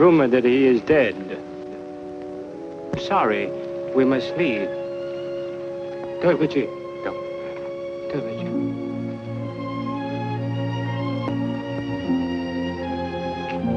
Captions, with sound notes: - It is rumored that he is dead. Sorry, we must leave. [speaks foreign language] [gentle instrumental music]